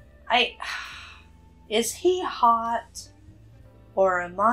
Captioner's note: sighs